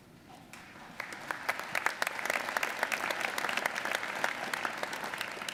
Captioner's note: audience applauding